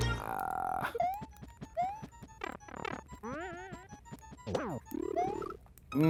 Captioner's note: silly video game noises